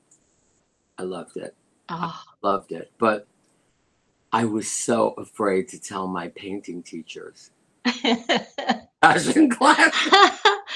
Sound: laughter

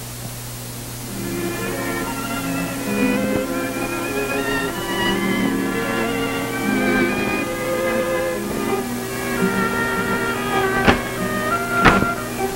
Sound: music, then a door opening and closing

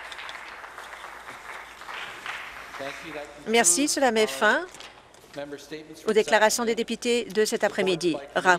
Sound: some applause

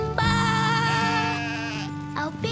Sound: sheep baaing

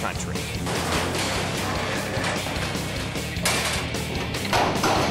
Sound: metal clanging

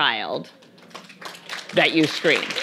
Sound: audience applauding

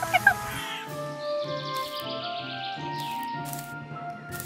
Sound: birds chirping

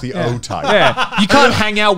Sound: laughing

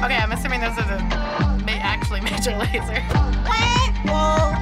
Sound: chuckles

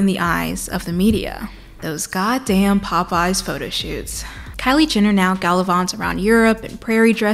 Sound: sigh

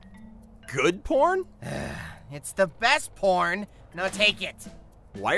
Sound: sigh

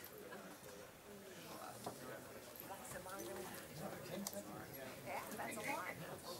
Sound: people talking amongst themselves

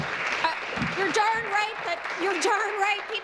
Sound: applause

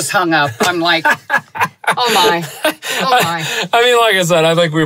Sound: laughs

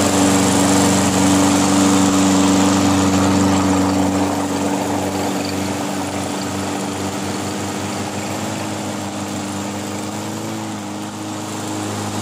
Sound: vroooom!

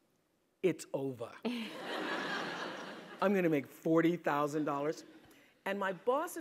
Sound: laugh

